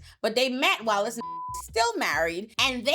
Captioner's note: beep